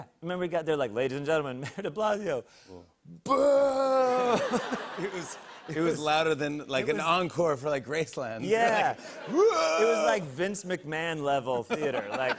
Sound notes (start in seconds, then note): 4.1 laughter